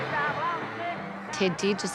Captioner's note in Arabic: صراخ الفتيات